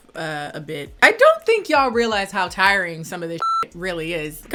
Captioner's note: beep